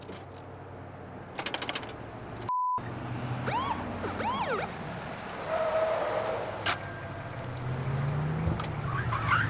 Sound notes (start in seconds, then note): 0.8 vehicle approaches; 4.0 siren bloops